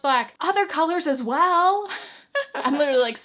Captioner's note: chuckles